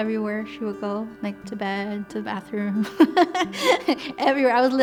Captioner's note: laughs